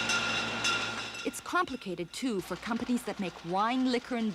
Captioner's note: bottles clanging